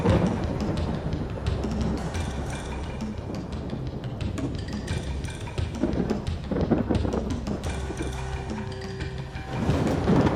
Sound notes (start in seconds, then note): 6.2 thunder crackles